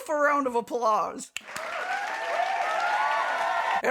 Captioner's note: sound of crowd applauding